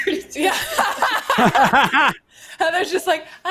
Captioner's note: all laughs